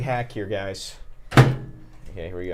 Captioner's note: closes microwave